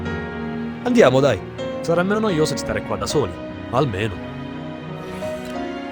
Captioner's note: renzo speaks italian